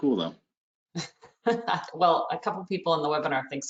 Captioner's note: laughs